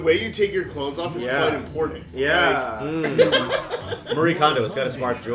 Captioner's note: laughter